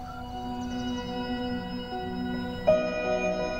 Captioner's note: Birds chirping